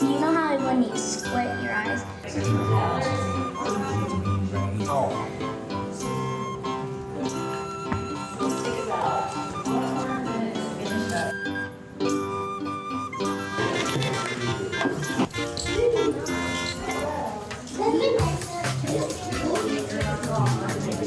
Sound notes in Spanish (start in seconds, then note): 2.5 los clientes parlotean; 2.5 música jovial; 18.7 música animada